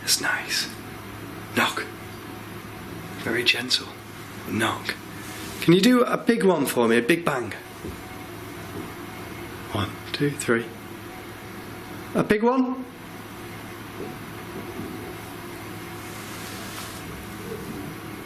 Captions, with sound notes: It's nice. Knock. Very gentle knock. Can you do a big one for me? A big bang? (soft knocking) One, two, three. A big one? (eerie whirring)